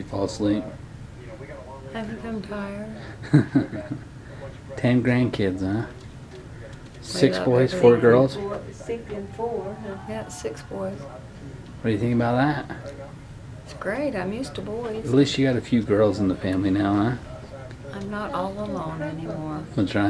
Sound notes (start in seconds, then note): 3.0 laughs